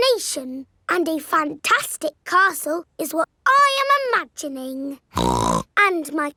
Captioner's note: snorts